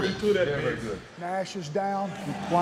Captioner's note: indistinct chatter